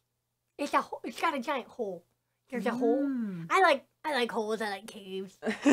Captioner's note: laughs